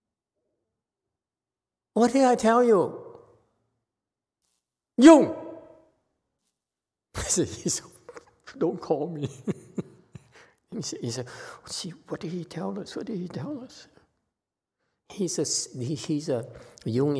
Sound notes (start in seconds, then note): 9.1 lowers head and laughs